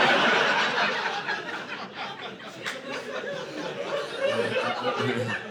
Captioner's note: audience laughing